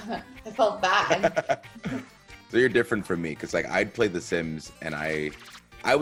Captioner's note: laugh